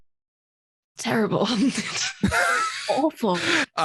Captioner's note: both laughs